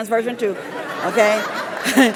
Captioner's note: laugh